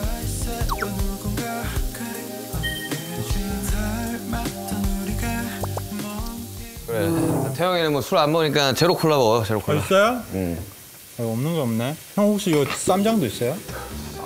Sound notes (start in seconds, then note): 5.5 nom, nom